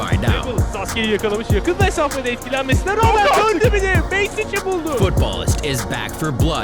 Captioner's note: foreign shoutcasters exclaiming